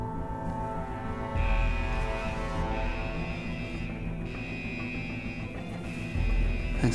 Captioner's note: alarm siren